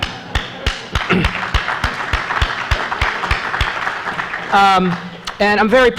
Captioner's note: applause